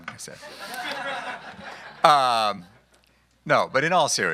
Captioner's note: laughing